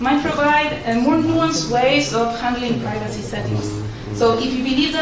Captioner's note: murmurs